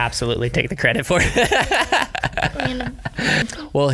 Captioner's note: laughs